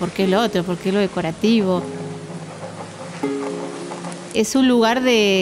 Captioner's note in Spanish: viento de abanico; fuego crepitando